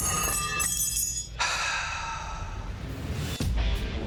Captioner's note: clatter; sighs